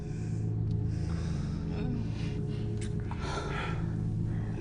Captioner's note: heavy breathing